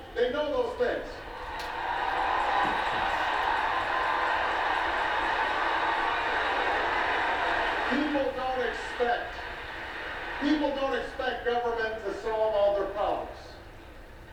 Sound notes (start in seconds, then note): 3.7 audience cheers